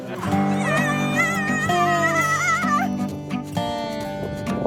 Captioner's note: adventurer cheering